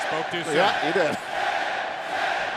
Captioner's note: fans chanting